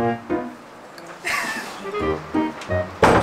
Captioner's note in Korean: 웃음소리